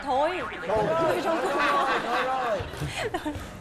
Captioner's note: laughing